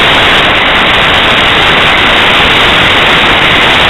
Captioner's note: static crackling